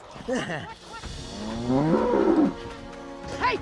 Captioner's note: cow bellows